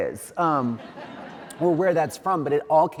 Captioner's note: audience laughs